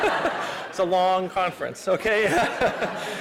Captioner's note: laughter